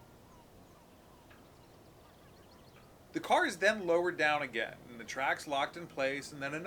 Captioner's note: birds chirping